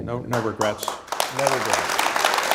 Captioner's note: applause